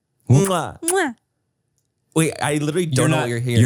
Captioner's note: Manny smooches; all smooch; smooches